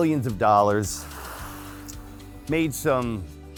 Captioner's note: water splashes